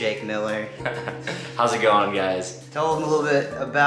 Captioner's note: laughs